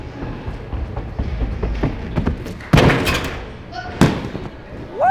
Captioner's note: footsteps thumping